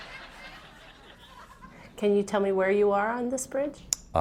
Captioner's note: laughter